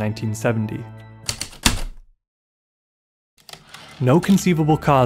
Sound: typewriter keystrokes, return slide

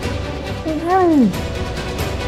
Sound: muffled voice

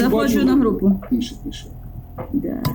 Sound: calmly

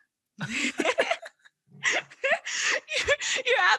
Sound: both laughing

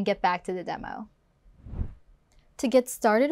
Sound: air whooshes

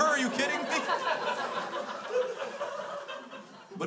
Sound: crowd laughs

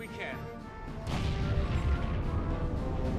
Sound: boom

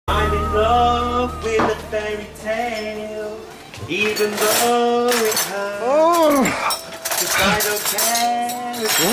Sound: radio on; singing badly

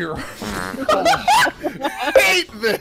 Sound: laughter

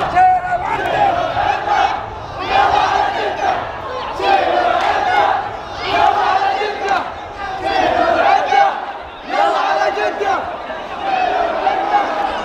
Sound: clap

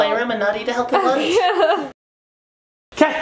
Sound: chuckles

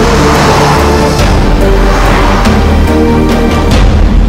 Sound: engine revving

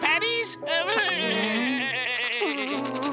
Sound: laughing

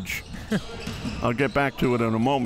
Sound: laughs

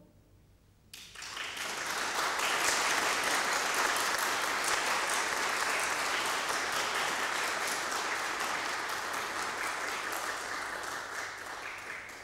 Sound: applause

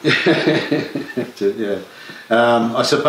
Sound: laughter

